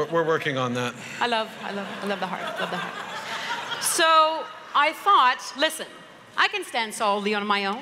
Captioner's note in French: Rires